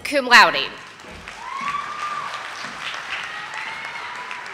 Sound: audience applauding

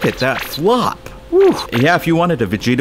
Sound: anime bouncy noises

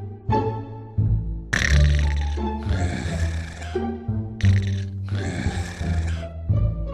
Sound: snoring

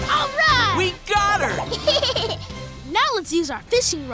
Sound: giggling

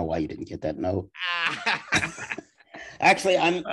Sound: laughing

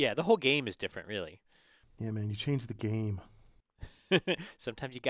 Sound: laugh

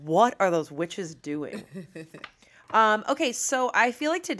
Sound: laughs

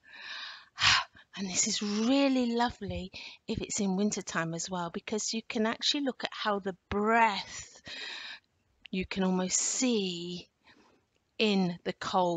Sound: the breathing

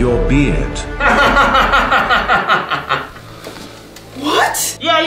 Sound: laughing loudly

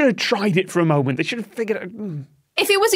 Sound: grumbles

